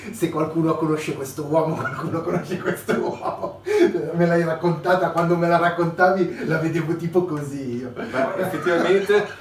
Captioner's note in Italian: Risate